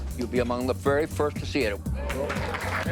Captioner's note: applause